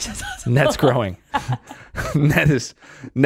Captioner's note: laughing